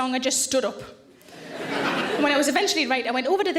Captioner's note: audience laughs